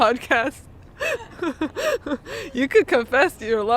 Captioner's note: all laughing